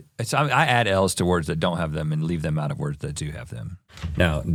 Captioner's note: none